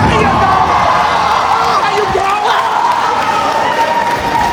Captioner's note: crowd Cheering